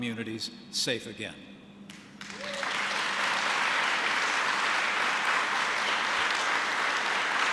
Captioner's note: applause